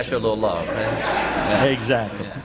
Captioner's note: laughter